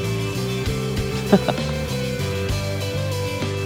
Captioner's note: laughs